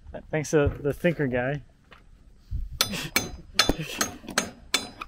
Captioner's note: hammer tapping